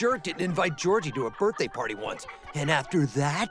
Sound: laughter

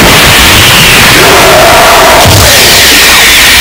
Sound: ape screams in agony

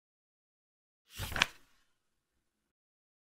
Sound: page flip sound

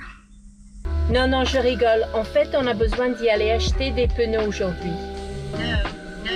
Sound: says in French

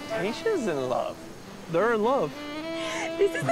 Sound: laughing

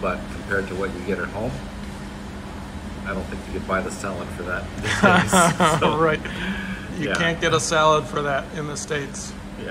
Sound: laugh

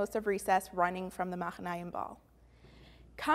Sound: Hebrew

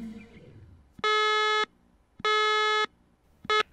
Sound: alarm

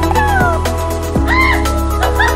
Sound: joyful music; yelps

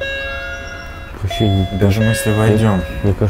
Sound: intecome ringing

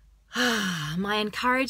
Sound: exhales

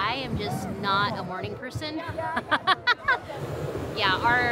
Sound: laughs

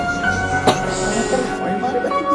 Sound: coughs

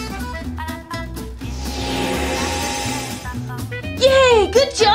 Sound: magic trill

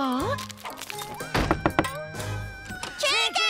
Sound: knocking

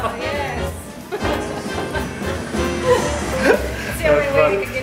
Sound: laughing

